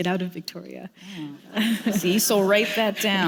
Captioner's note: laughter